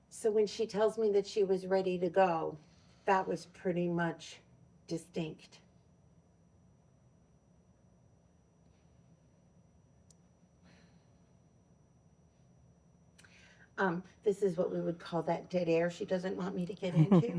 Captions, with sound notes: So when she tells me that she was ready to go, that was pretty much distinct. [silence] This is what we would call that dead air she doesn't want me to get into.